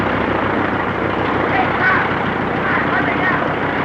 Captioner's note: propeller spinning